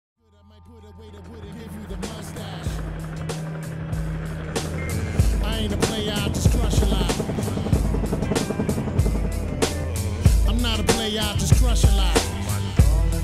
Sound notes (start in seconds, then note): 3.0 helicopter whirs